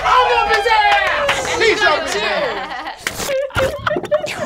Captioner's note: cheering; squelching